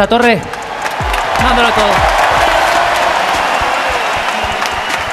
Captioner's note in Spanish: Aplausos y gritos